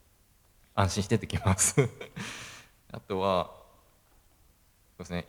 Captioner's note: laugh